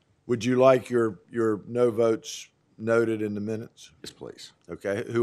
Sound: chorus of ayes

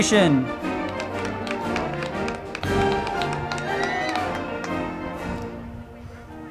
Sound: band music; crowd clapping

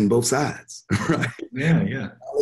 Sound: chuckles

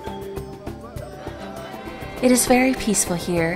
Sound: background singing and talking

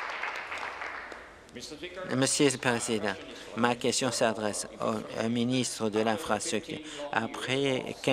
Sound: applause

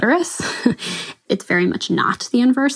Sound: laughs

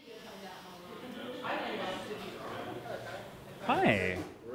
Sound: class members murmuring

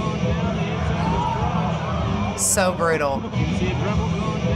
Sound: spectators exclaiming; laughing

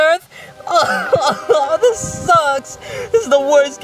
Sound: crying

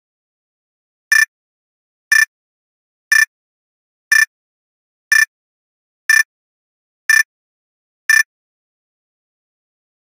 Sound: beep

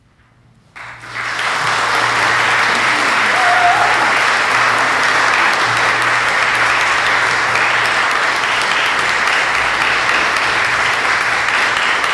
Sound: applause

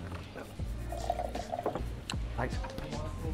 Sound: milk gurgling

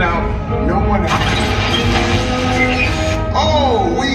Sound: electronic buzzing

